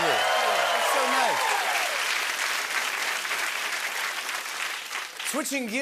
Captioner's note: applause